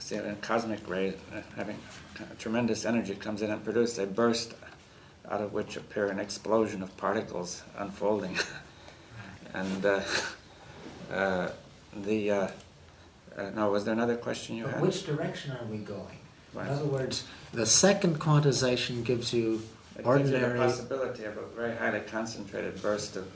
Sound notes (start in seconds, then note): 10.0 laughs